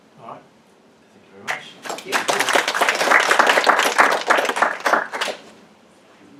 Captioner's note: applause